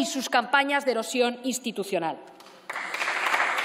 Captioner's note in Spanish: Aplausos